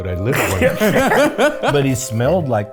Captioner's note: group laughs